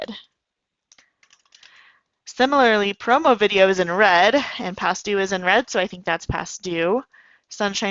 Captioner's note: typing